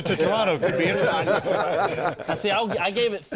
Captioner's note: laughter